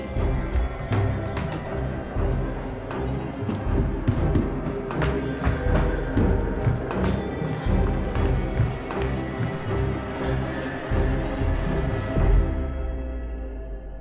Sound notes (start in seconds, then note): 0.2 tense music; 3.7 footsteps thumping; 5.4 tense music